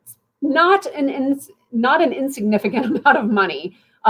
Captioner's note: laughter